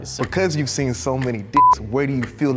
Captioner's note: beep